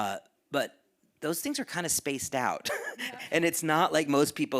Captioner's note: chuckles